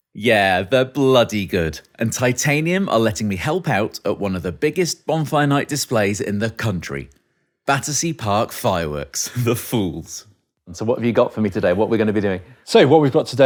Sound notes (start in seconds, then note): 9.2 chuckling